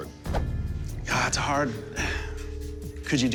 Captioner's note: sighs